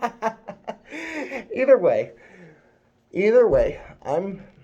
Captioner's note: laughs